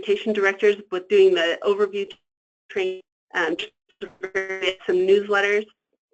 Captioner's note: static